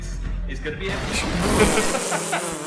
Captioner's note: Dan and Phil laughing; static crackling